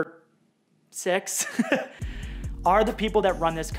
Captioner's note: laughs